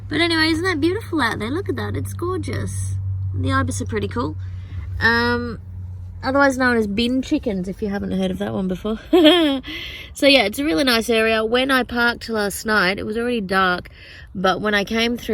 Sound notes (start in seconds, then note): 9.0 giggles